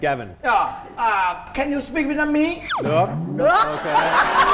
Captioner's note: say in Vietnamese